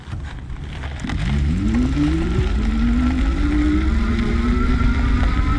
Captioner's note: motor revving